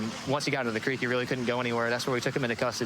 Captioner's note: sirens wailing